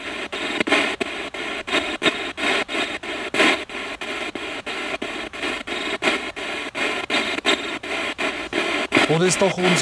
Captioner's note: radio noise from the spirit box